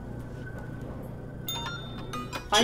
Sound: bell rings

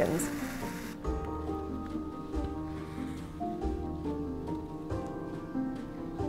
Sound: classical music; fabric rustling

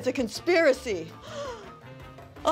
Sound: gasps

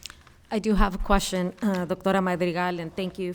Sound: speaks Spanish

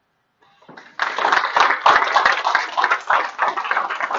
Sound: applause

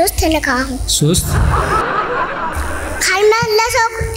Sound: laughter

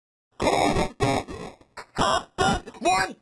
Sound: heavily distorted audio

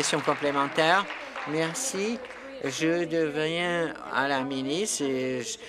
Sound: applause

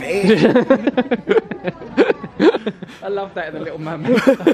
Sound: laughs

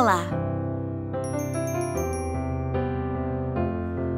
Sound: bell chimes

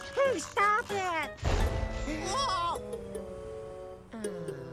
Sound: boom

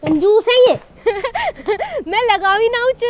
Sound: laughing

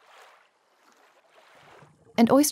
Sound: water flowing

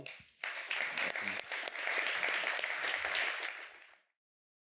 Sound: applause

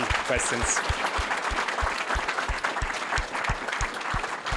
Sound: applause

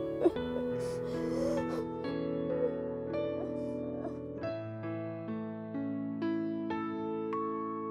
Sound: piano instrumental playing; both crying

